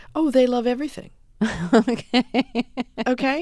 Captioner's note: soundbite of laughter